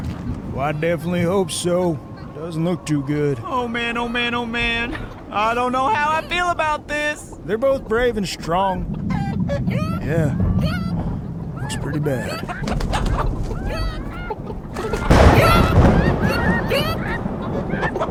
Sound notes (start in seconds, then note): 10.0 chickens cackling; 13.2 chickens squawking; 14.9 fowls fearfully squawking; 14.9 thunder loudly crashes; 17.9 chickens cackling; 17.9 wings flapping